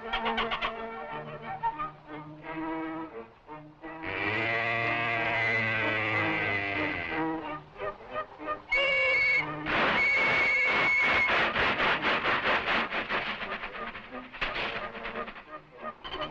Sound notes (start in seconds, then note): 4.0 mooing; 8.7 whistle blowing; 8.7 steam engine sputtering